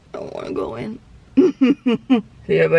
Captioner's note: chuckles